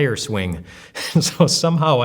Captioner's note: laughs